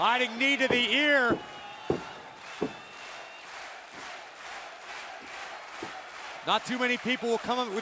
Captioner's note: crowd cheering